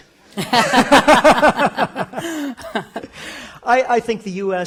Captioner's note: both laugh